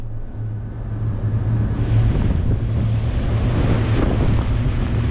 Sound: engine roaring

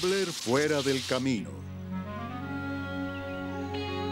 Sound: birds Singing

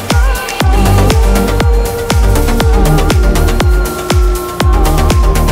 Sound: wolf howling

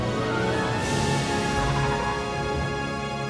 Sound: warble

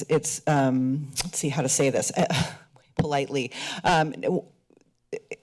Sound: chuckles

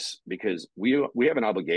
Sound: none

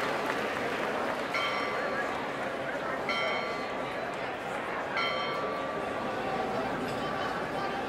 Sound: applause; bell sound

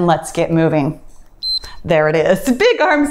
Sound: timer beeps

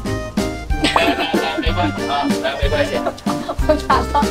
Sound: laughing instantly

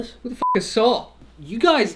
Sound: beep

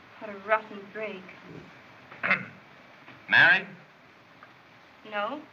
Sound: clears Throat

